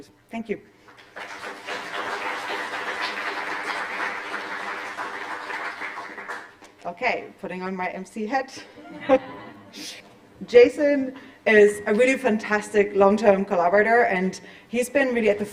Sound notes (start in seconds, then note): 0.8 applause; 8.7 chuckles